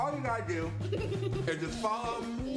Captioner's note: laughing